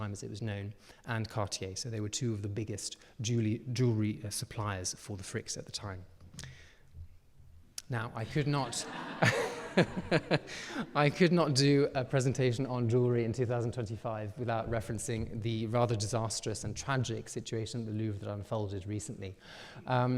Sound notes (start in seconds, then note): 8.3 audience laughing; 8.6 laughing